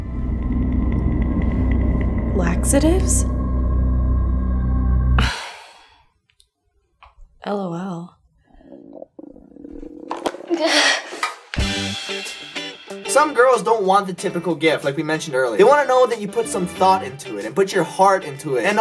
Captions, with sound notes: Laxatives? LOL (stomach rumbles) The not-so-typical gift Some girls don't want the typical gift, like we mentioned earlier. They wanna know that you put some thought into it and put your heart into it.